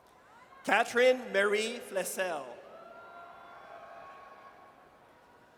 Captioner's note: audience cheers